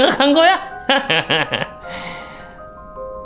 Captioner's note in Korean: 들뜬 웃음